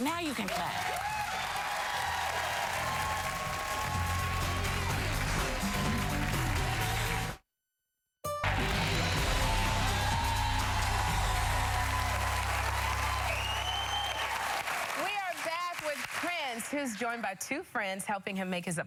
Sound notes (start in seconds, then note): 0.0 applause; 6.1 cheers and applause